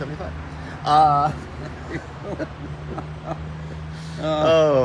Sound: laughs

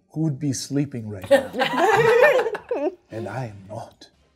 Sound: all laughing

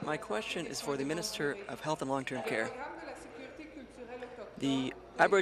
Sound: speaking in French

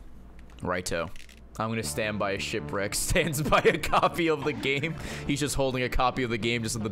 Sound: laughs

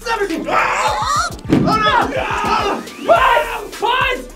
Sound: group shouting

